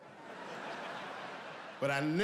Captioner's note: audience laughing